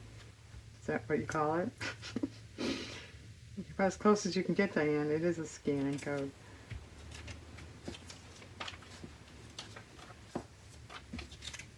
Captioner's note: laughs